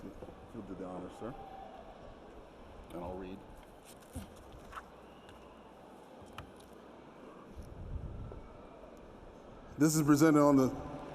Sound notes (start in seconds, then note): 6.8 cheering